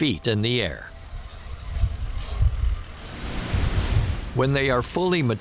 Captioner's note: hops harvesting sounds